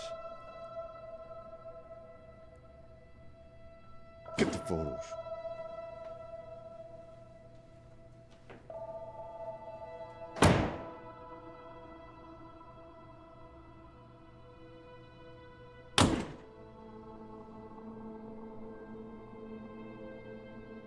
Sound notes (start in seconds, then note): 0.0 tense music; 5.6 ominous music; 10.3 door slam; 16.0 slam; 16.6 ominous music